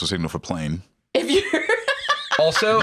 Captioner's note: laughs